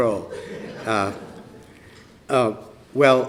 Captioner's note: laughter